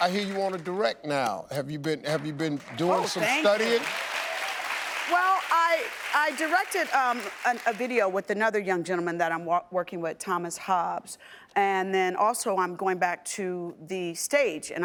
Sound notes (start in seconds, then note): 4.0 audience applauding